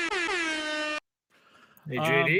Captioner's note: horn blaring